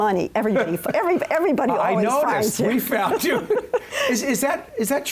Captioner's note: laughs